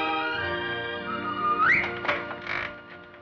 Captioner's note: whistling